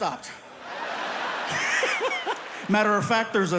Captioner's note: everyone laughing